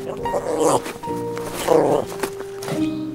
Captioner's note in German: Knurren; Nachdenkliche Musik